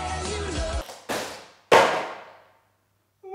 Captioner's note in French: bruit de chute